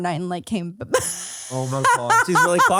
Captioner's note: laughs